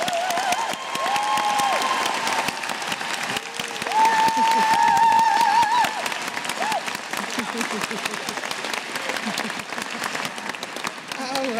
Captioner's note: cheers & applause